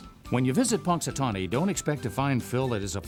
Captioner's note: voiceover